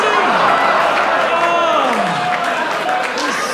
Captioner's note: audience groans and laughs